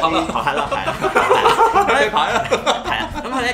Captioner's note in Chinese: 笑聲